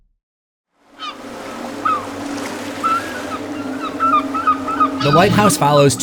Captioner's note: ocean sounds and seagulls